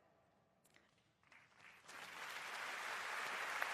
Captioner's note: applause